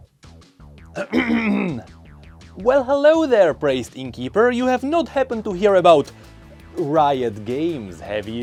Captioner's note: clear throat